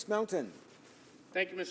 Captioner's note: speaking French